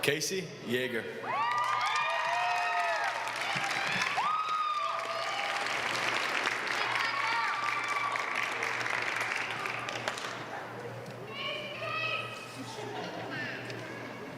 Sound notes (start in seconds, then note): 1.4 applause